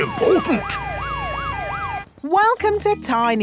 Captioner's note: sirens wailing